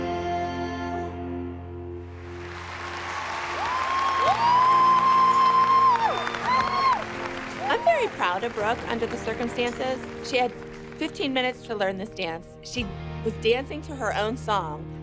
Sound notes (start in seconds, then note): 1.5 applause; 2.3 cheering; 6.3 cheering